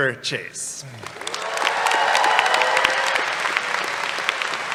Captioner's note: applause